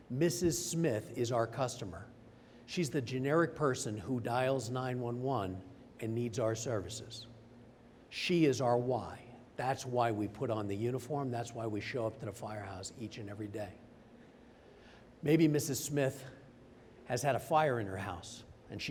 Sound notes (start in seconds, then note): none